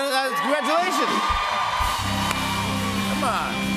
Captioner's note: cheers and applause